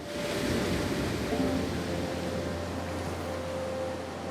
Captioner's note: water splashing